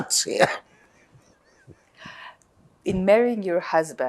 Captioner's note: laughing